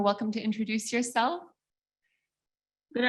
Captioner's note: speaking in indigenous language